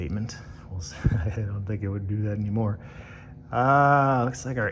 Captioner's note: chuckles